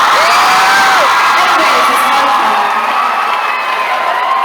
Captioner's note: laughing